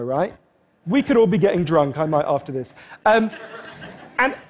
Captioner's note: Laughter